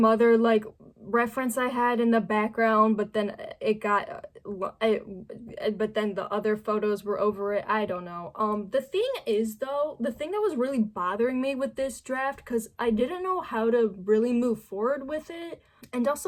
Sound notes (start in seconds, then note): 3.3 stammering; 4.2 more stammering